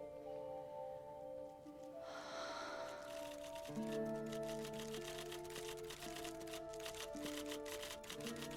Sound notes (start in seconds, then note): 2.0 sighs; 5.6 typewriter keys clicking